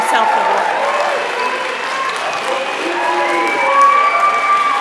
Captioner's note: applause